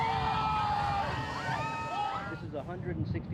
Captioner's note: all screaming